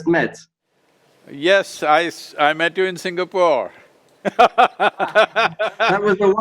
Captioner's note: laughs